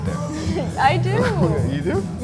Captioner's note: chuckles